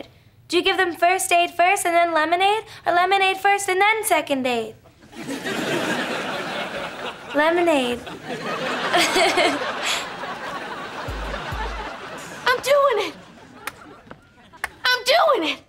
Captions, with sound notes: Do you give them first aid first and then lemonade or lemonade first, and then second aid? Lemonade. [giggling] I'm doing it. I'm doing it.